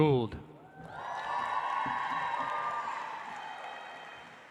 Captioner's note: audience applauds